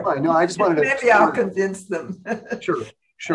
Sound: laughs

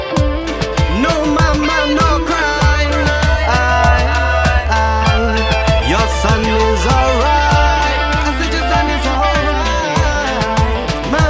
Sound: cry, cry

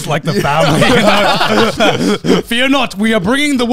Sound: all laughing

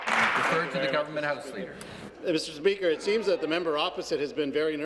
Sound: applause

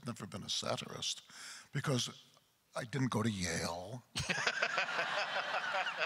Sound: crowd laughter

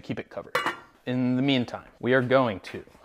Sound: metal clanging

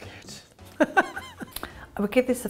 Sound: chuckles

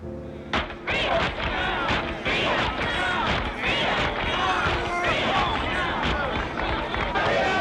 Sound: crowd claps; crowd chants

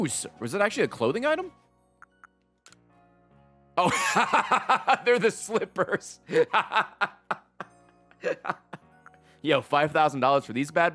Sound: laughs

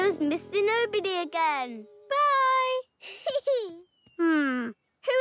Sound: laughs

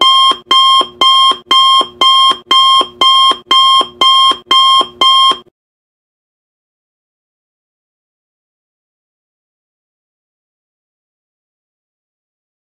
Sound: no Music

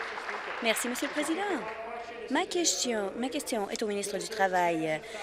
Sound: applause

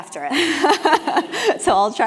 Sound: laugh

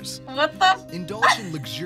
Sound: laughs

